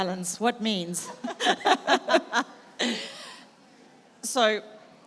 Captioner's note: laugh